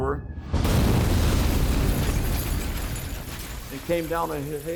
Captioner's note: bomb exploding